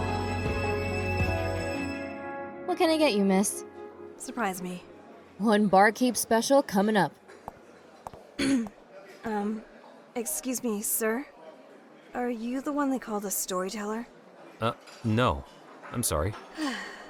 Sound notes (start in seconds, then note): 8.3 clears throat; 16.6 sighs